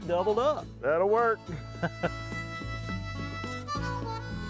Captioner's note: laughs